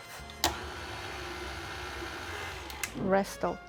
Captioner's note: mixer whirs